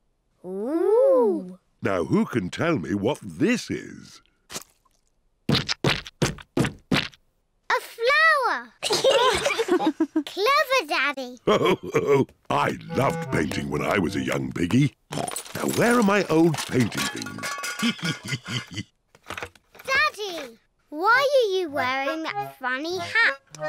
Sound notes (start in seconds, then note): 8.8 giggles; 8.9 all laugh